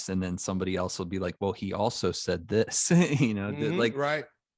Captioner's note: chuckles